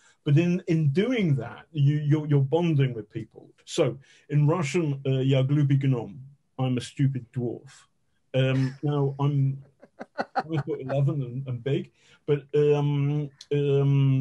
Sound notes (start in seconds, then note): 4.7 speaking in Russian